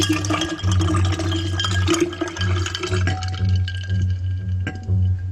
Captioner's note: water pouring, ice clinking